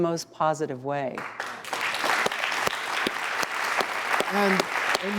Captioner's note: audience clapping